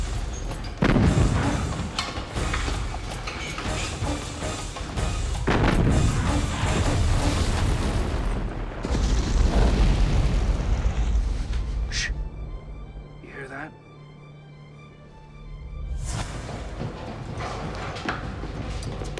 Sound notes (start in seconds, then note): 0.6 cannons continue firing